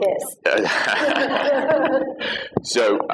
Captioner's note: laughter